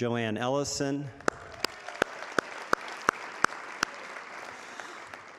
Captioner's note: audience applauding